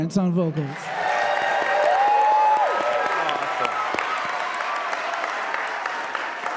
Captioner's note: audience cheering; audience applauding